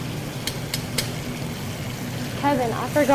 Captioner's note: tapping